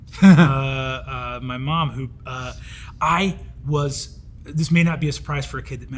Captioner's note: Hank chuckles